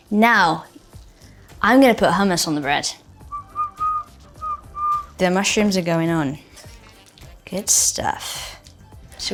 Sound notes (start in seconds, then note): 3.2 Bella whistling